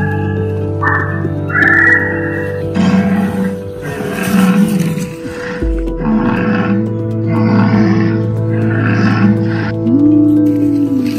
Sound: dinosaur and jungle sounds

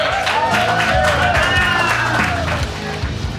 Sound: audience cheers and applauds; upbeat rock music

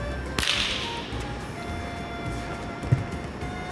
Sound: claps

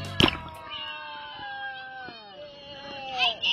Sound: cheering

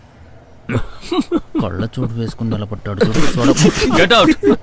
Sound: laughs

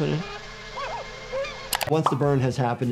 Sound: Tom shouting painfully

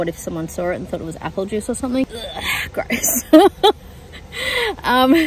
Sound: makes gagging noises; laughs

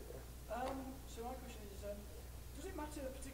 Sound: voiceover

